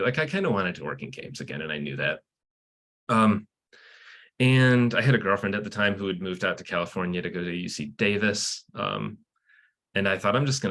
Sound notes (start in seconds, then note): none